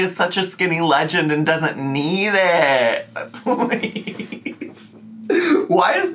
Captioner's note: laughs